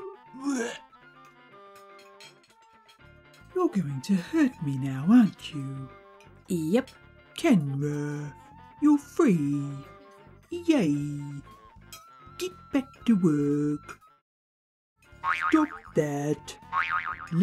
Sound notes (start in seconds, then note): 15.1 boing sounds